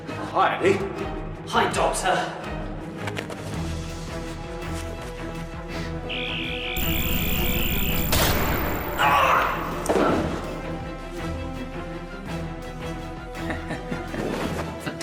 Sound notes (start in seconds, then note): 5.5 whispering; 6.6 buzzing; 7.8 gunshot; 8.9 eddie screams; 13.3 laughing